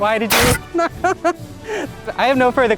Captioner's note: fire extinguisher spraying; laughs